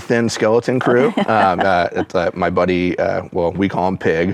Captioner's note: chuckles